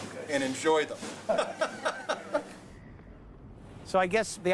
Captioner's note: laughing